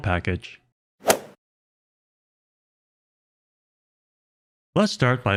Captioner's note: golf ball hit sound effect